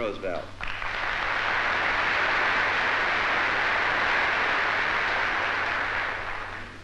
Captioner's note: applause